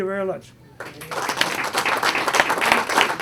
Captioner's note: clapping